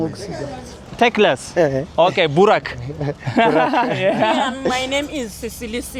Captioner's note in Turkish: kahkaha